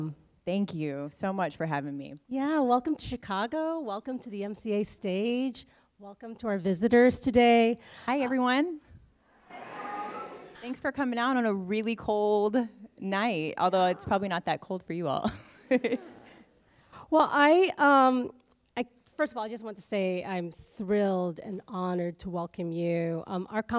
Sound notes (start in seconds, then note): 9.4 audience response; 13.8 laughs